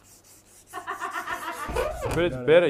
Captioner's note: laughs